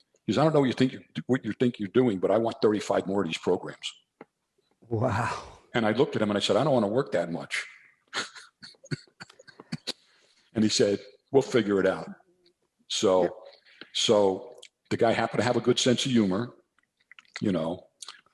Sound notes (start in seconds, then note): 8.1 laughs